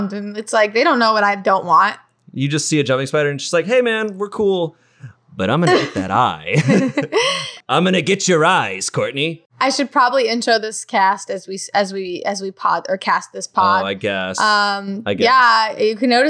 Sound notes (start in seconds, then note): 5.4 laughing